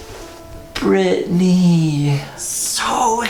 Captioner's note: slurred